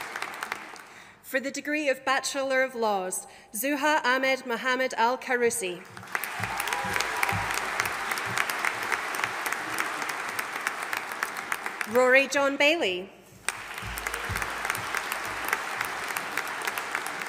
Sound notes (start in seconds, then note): 5.8 audience applauding; 13.4 audience applauding